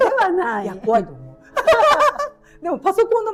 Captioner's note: laughs